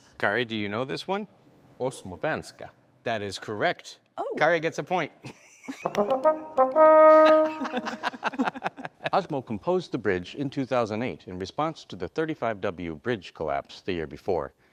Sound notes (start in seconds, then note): 5.8 trombone music; 7.1 all laughing